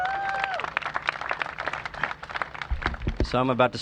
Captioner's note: cheers and applause